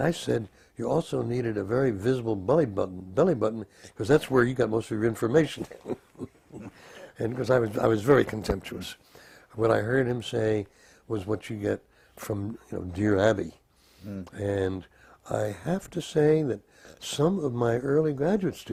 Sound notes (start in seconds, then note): 5.4 laugh